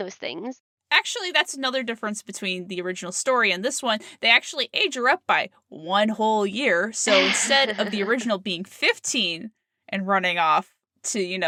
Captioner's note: sarcasm